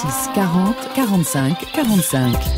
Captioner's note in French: Voix off